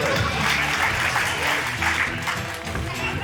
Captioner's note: cheering, applause